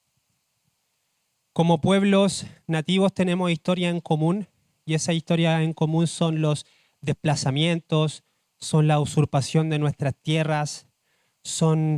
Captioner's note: speaks Spanish